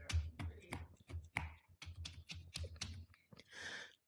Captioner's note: tapping